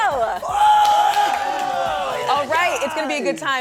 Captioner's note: crowd cheers